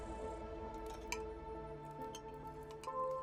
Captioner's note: soft clinking